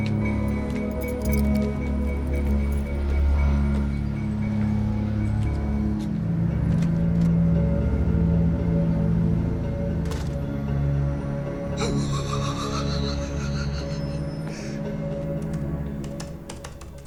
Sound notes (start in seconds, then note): 6.5 door opens; 9.8 door closes; 11.7 laughs